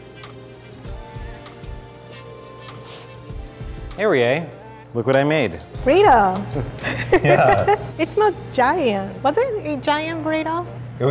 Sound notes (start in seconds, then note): 0.0 jazz music; 6.5 laughing